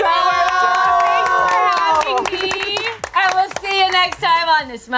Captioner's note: group clapping